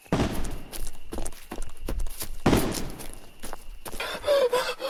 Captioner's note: distant gunshots